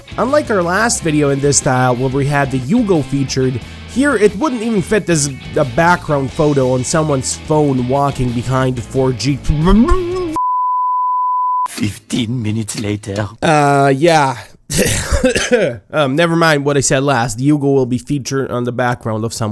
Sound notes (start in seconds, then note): 9.6 gagged mumbling; 10.3 beeeeeeeeep!; 14.6 clears his throat